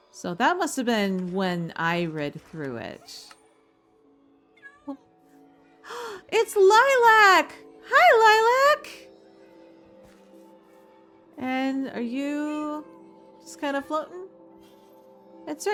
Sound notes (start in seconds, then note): 5.8 gasp